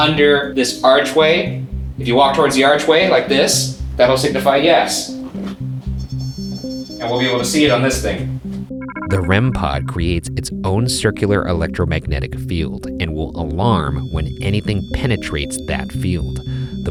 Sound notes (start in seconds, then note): 5.8 REM-pod beeps